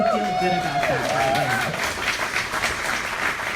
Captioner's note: applause